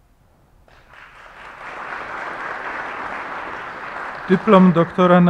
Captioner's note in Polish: oklaski